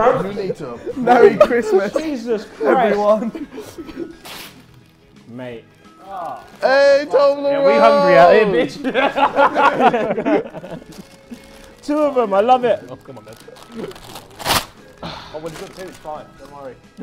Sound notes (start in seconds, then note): 11.0 laughs